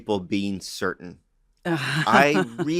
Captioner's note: laughs